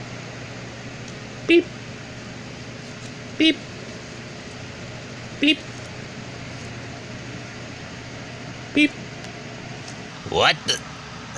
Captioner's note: beeping Sounds